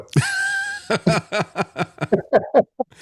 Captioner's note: laughing